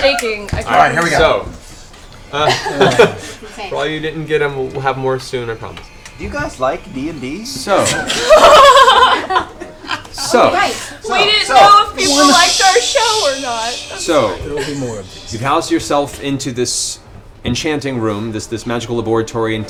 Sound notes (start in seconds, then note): 14.4 laughs